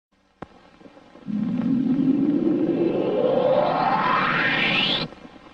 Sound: synthesizer whooshing sounds

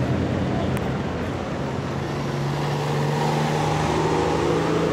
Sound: hum of traffic continues

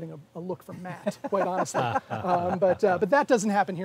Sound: laughing

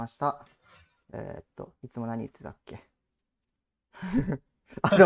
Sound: laughs

